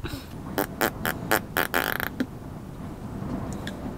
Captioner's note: makes funny farting noises